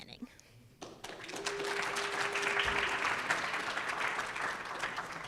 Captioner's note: audience applauds